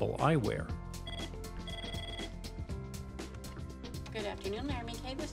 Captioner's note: phone ringing